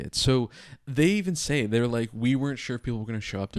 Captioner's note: none